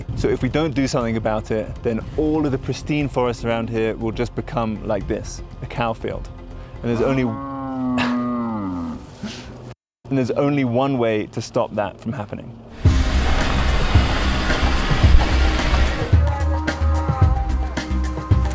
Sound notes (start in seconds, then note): 7.0 cow mooing; 12.7 vehicle purring; 12.8 groovy upbeat music